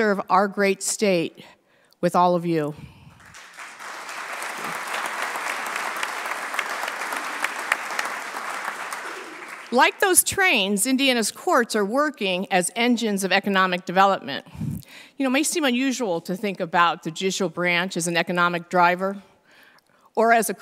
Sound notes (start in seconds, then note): 3.1 applause